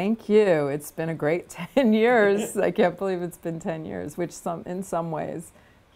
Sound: laughter

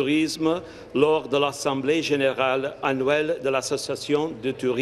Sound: speaking in French

